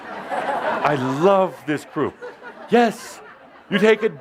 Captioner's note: laughter